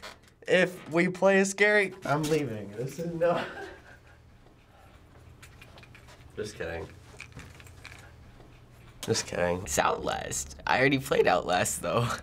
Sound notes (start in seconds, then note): 3.2 laughing; 6.3 dejectedly